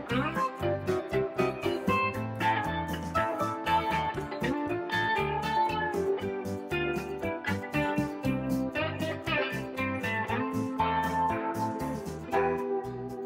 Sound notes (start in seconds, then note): 6.4 clap